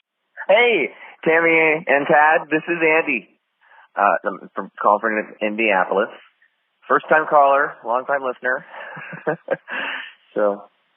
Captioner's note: phone message